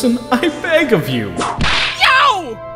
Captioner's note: whip crack!